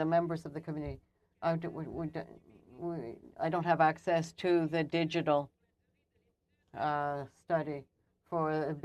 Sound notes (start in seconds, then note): 1.3 speaking French